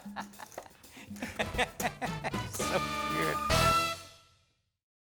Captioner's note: laughs